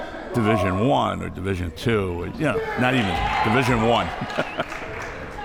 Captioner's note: laughs